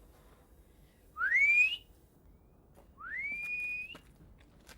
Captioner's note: whistles